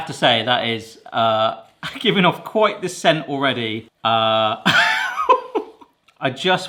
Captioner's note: laughs